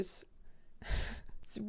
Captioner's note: exhales